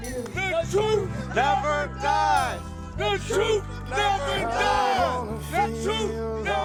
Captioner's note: chanting